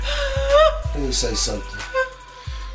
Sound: Renee cries

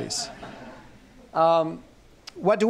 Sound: laughter

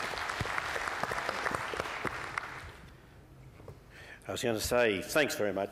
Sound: applause

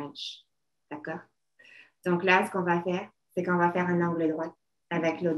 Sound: speaking French

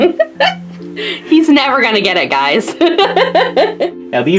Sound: laughs

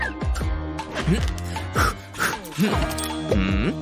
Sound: blows

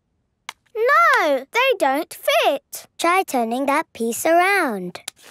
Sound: none

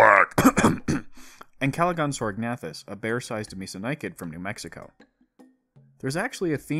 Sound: cough

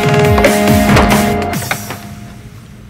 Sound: door opening

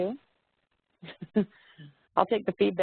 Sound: laughs

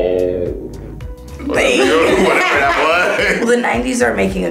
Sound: laughing

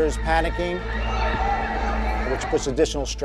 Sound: panicked screaming

